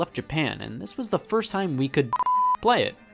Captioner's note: beeps